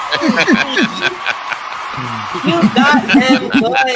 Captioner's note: co-hosts start chanting " !"; audience cheering SFX; co-hosts start chanting " laughing; laughing